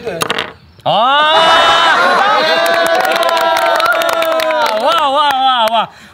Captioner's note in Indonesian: tertawa dan bertepuk tangan